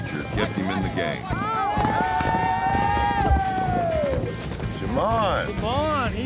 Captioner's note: cheering